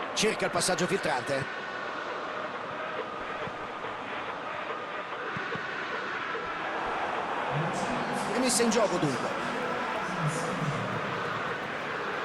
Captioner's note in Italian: Applauso